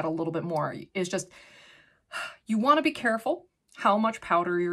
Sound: sighs

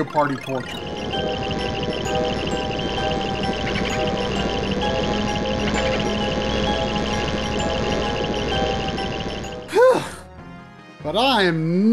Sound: game audio

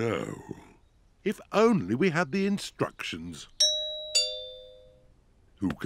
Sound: doorbell rings

